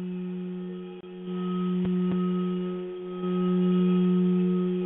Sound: vibrating tone

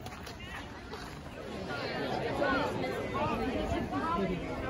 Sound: crowd murmuring

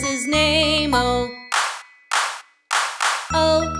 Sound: hands clap

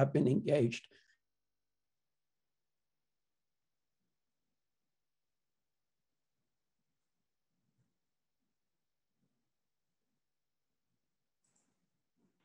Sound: audio cuts out

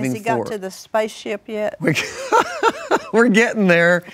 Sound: laughs

